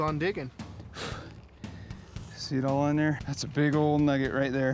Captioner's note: blows